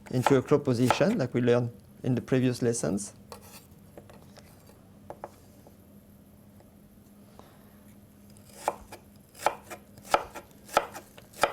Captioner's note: cutting sounds